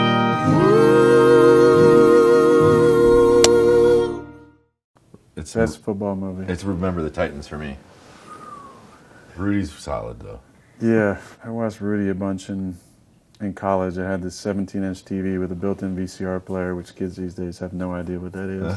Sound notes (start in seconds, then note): 1.8 clapboard clicks; 8.3 whistles